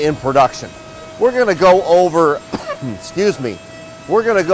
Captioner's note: coughs